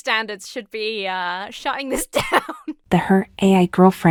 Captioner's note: laughs